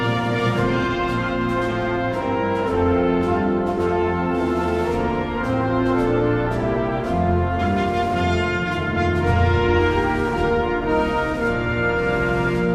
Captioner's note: applause